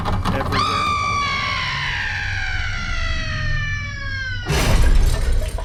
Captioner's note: eerie scream